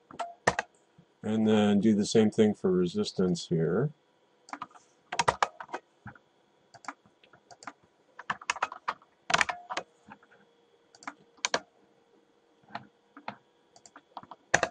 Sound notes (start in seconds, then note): 5.1 typing